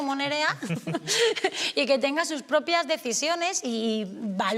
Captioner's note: she laughs